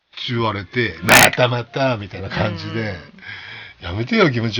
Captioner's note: laughs